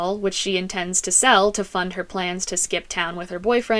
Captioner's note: none